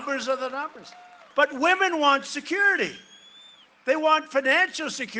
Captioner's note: cheering and applause